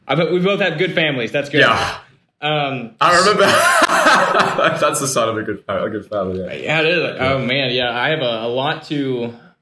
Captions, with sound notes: We both have good families, that's good. - Yeah. I remember. (laughing) That's the sign of a good family. - Yeah, it is. Oh man, yeah. I have a lot to,